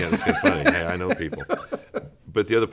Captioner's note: laughs